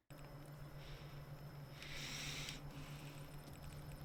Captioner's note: heavy Breathing